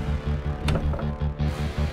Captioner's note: door opens